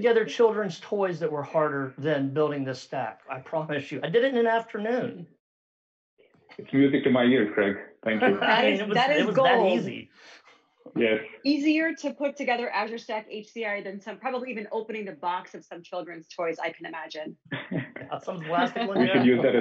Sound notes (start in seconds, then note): 8.0 giggles; 17.5 all chuckling